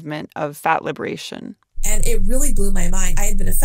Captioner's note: soundbite of archived recording